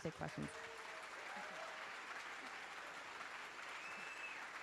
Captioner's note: applause